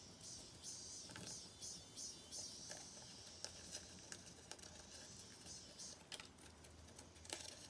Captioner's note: cicada sounds from outside